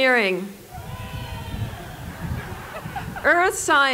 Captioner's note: applause